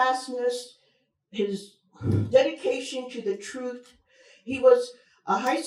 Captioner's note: breathes heavily